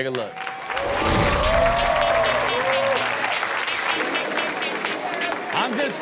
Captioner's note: audience cheers; upbeat music